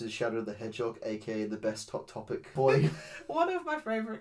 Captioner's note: laughs